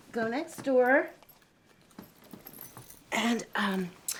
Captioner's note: none